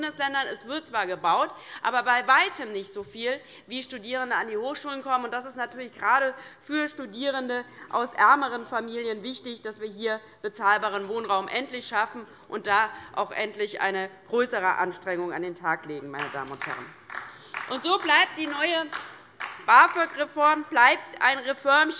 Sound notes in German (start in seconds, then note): 16.2 Beifall DIE LINKE